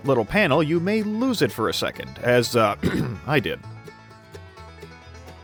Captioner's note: ahem